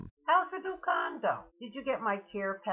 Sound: voiceover

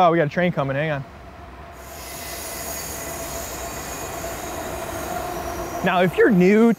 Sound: air whooshing; train wheels squealing

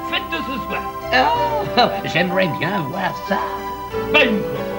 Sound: laughs

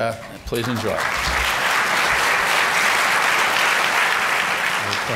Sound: applause

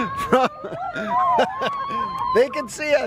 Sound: chuckling; laughing; shouting

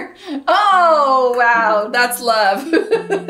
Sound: laughs

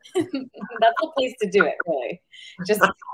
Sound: laughs

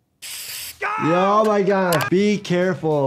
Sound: shouting

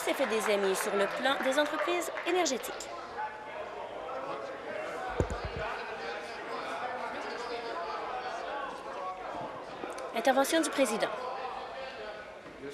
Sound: applause

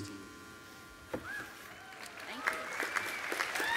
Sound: applause

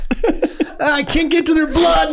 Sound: Charlie laughing

